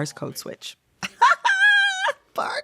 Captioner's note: laughter